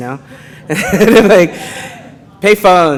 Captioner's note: audience laughing